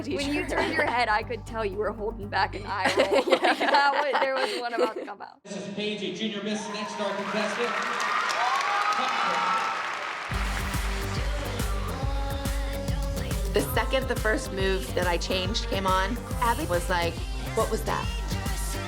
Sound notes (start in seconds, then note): 6.4 cheering; 10.3 upbeat dance music playing